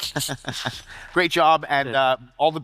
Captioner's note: chuckles